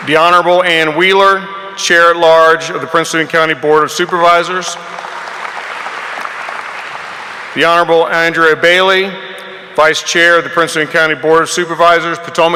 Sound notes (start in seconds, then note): 4.8 audience applauding